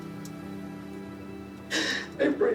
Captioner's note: gasps